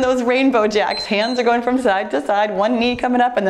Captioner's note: timer beeps